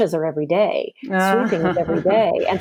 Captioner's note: laughs